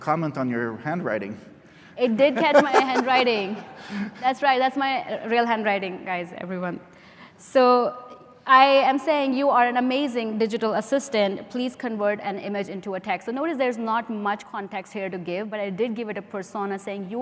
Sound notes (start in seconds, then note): 2.1 laughs; 2.2 laughter